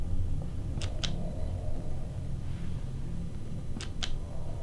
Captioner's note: clicking